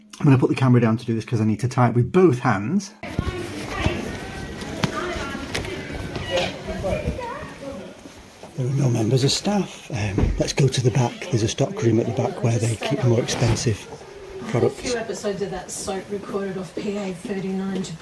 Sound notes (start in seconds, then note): 3.0 street sounds; 3.7 door squeaking